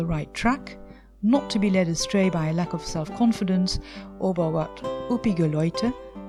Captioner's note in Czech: německy